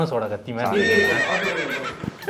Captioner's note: horse neighs